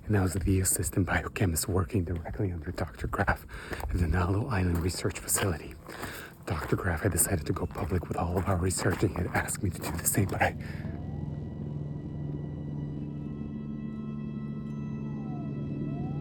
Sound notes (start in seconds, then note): 10.8 sirens blaring